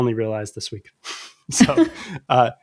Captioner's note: uh; laughter